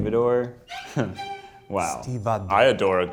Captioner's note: chuckles